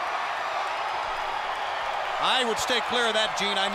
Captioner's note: crowd cheering